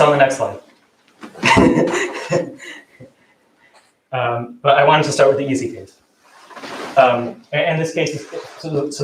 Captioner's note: laughs